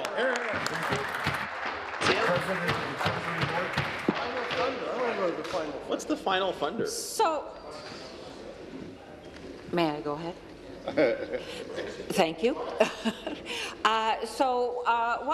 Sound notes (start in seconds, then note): 4.9 applause